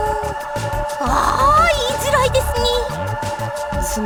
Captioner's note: melodramatic sigh